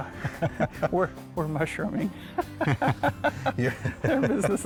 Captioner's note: both laughing